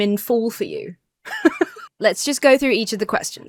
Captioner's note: laughs